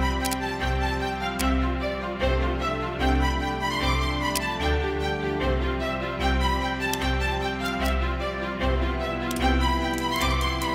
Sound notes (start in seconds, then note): 0.2 dramatic orchestra music; 1.3 clicking; 7.2 clicking